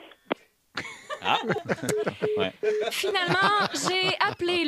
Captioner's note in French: rires